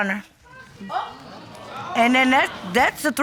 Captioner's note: audience gasping